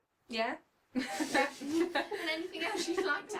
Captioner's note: laughing